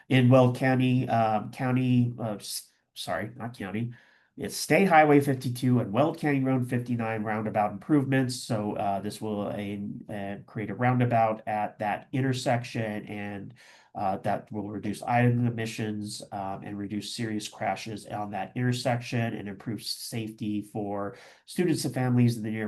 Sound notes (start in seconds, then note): none